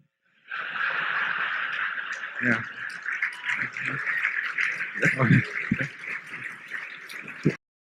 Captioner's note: laughter and applause